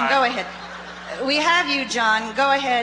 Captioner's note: voiceover